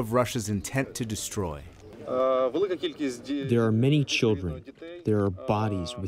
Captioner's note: through translator